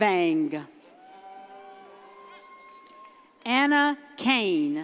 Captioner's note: audience cheers